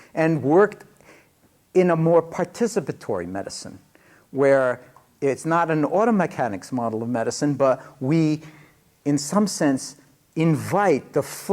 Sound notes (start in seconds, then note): none